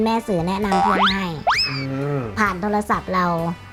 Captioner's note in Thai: เสียงเอฟเฟกต์